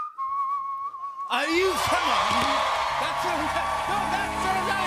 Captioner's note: cheers and applause